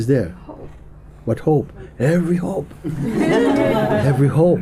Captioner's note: laughter